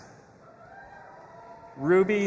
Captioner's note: audience applauding and cheering